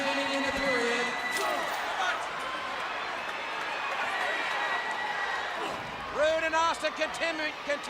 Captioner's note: crowd chatter